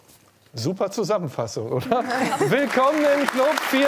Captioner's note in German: Applaus